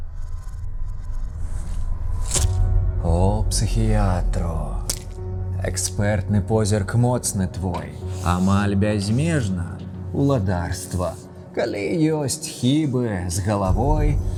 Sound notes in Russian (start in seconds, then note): 2.2 Отрывающися скотч